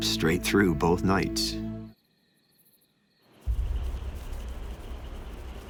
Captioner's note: crickets chirping